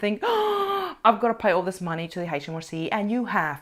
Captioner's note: gasps